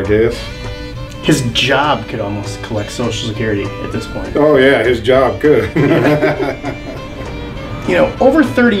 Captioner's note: laughs